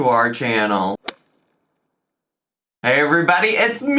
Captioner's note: logo thuds